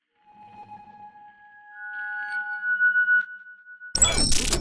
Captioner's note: high pitched electronic tones; electronic distortion